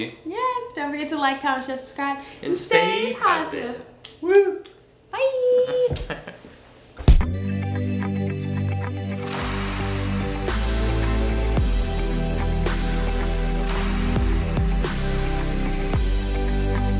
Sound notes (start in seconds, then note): 4.5 lips smacking; 5.6 chuckles; 7.0 hand thumps; 7.2 bright electronic music